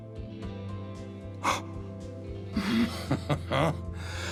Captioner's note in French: rires agonisants